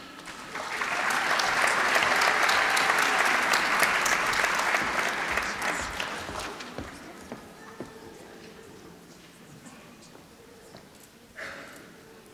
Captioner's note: applause